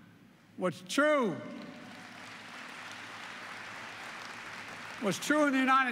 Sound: applause

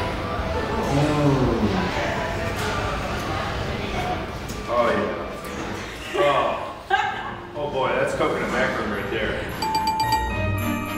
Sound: correct answer bell

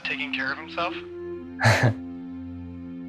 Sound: JUSTIN, laughing; laughs

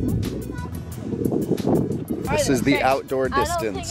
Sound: wind blowing

